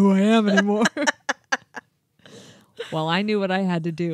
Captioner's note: chuckling